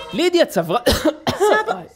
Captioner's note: cough